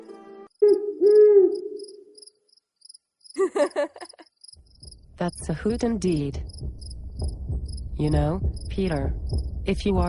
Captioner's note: giggle